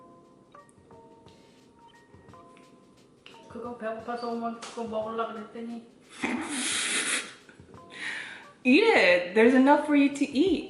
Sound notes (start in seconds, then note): 6.2 evil laughter